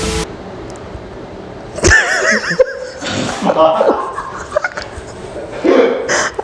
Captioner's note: laughing